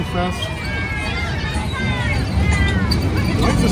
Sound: crowd noises

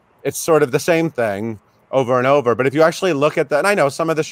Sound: none

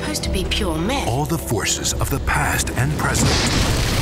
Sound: voiceover

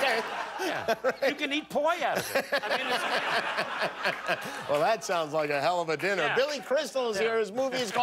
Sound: laughter

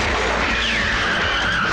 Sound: gunshot

